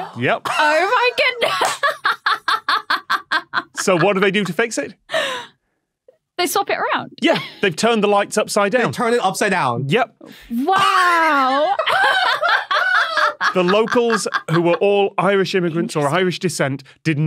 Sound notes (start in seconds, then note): 1.5 laughs heartily; 10.8 laughs